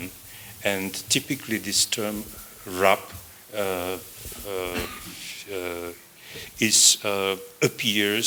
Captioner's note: non-english